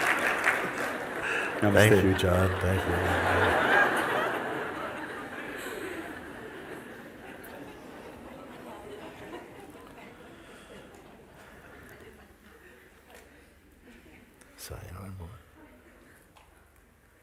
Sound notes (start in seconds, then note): 5.0 risadas